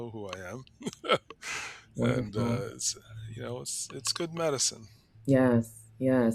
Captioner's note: chuckles